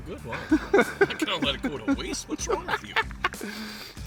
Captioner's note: laughing